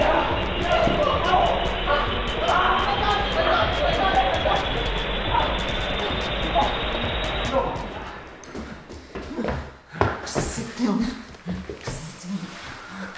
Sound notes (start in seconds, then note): 3.9 both yelling